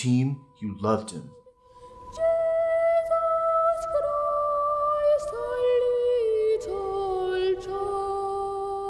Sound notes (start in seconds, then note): 1.2 falsetto boy's voice